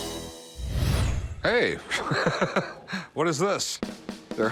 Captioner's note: laughs